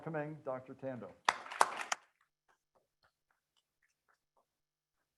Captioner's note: people clapping